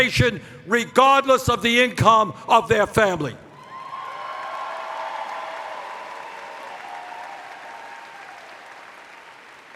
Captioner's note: cheers